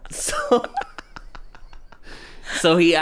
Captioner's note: laughs